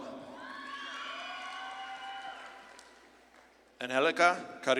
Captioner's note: audience claps and cheers